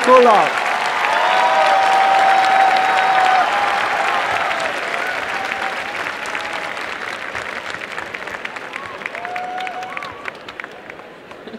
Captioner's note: applause and cheering